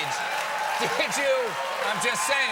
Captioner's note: cheers and applause